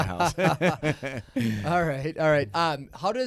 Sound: laughing

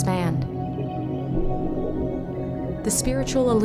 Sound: water sounds

